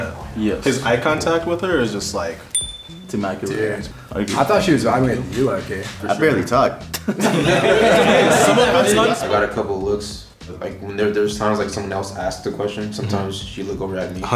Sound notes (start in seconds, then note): 2.5 bell dinging; 6.9 group laughing